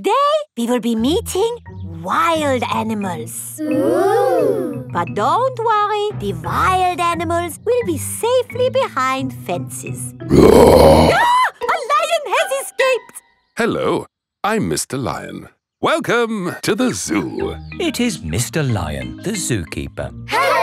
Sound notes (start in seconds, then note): 10.3 roars; 10.4 screams